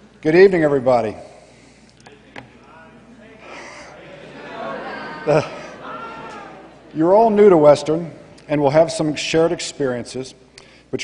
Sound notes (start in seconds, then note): 2.5 chatter